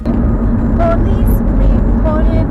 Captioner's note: dramatic music; horn honking; speaking faintly